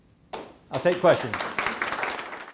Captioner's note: applause